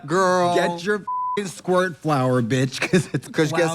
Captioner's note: beep